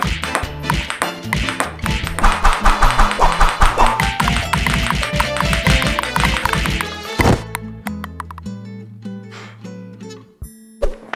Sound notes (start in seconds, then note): 0.6 punches thud; 2.3 ball clicks; 4.4 punches thud